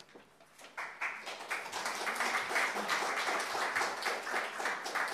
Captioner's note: audience applauding